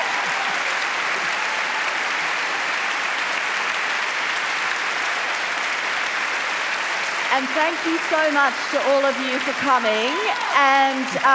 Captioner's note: cheering and applause